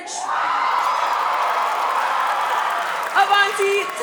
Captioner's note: cheering